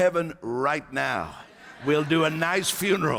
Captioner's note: laughter